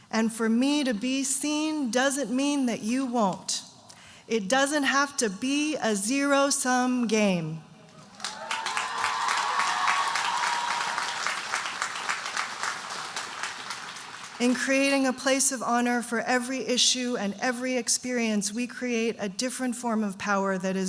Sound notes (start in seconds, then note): 8.0 audience cheering and applauding